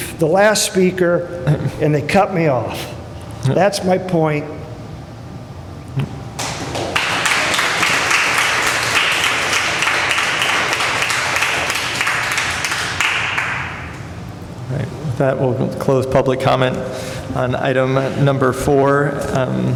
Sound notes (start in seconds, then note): 4.7 applause